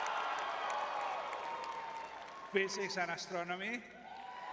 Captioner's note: crowd cheering